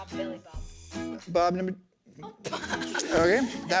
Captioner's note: children laughing